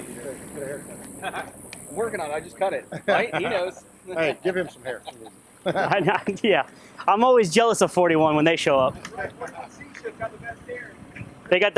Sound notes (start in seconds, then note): 5.1 laughing